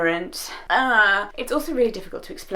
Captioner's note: groans